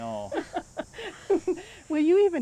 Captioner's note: laughing